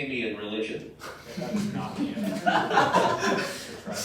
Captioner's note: giggles from other players